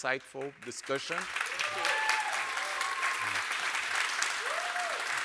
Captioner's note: audience applauds